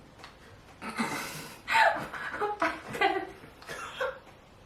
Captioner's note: giggling